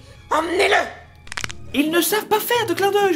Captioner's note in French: craquement